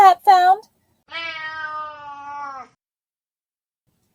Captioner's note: cat meowing